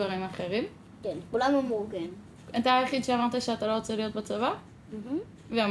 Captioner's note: speaking foreign language